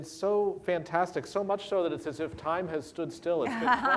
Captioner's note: laughter